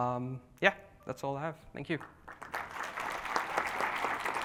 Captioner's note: applause